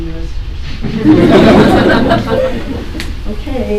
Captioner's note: laughter